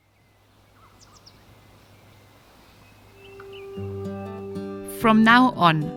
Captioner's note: birds chirping; vibrant music